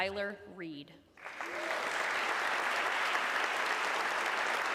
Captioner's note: audience clapping